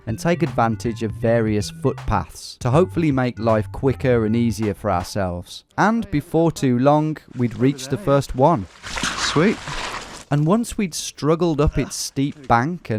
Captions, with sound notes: and take advantage of various footpaths to hopefully make life quicker and easier for ourselves. And before too long, we'd reached the first one. Sweet! (water splashing) And once we'd struggled up its steep bank